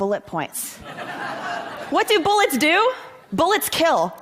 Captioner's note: laughter